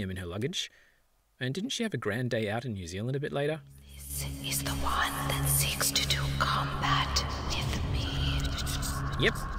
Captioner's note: spooky voice